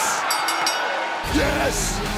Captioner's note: bell rings; music plays